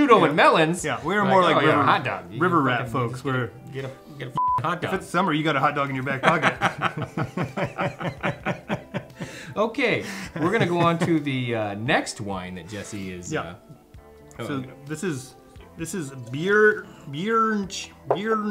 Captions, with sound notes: - Who shoot on the melons. - Yeah, we were more like a hot dog. - River rat folks were- - Get a (beep) hot dog. - It's summer, you got a hot dog in your back pocket. (both laughing) - Okay. We're gonna go onto the next wine that Jesse is- - Yeah, this Birichino